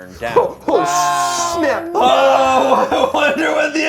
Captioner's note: overlapping chatter